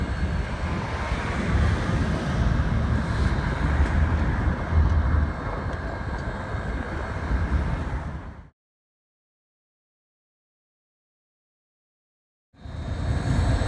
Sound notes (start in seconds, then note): none